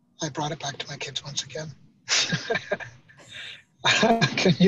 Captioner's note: laughing